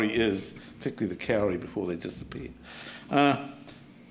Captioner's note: speaking Maori